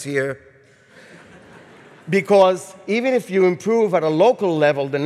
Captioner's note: audience chuckles